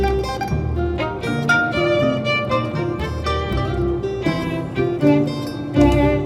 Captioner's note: water sloshes